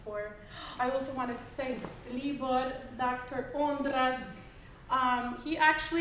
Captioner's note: gasping